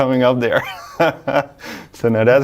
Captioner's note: laughing